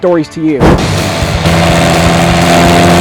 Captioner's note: engine roaring